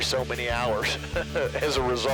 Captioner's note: laughs